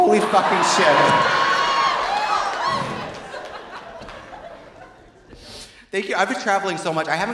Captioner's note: audience cheering; audience laughing